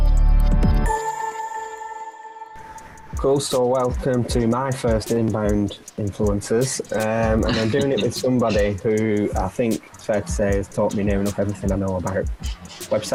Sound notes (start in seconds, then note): 7.2 laughing